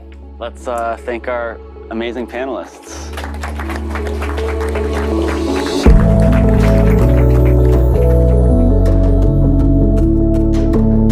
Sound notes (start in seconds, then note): 2.9 applause; 5.8 theme music playing